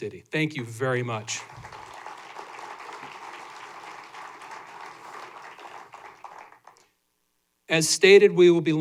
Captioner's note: applause